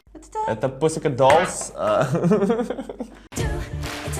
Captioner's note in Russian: смех